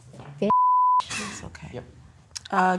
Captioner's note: beep